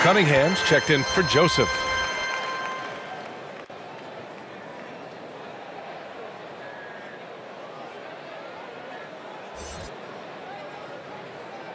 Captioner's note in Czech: Potlesk